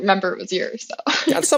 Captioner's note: laugh